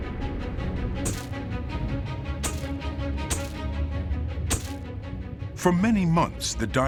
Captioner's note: camera flash popping